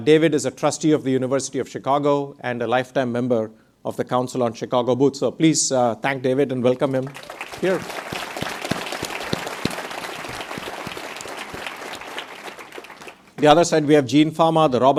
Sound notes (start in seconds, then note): 7.0 audience applauds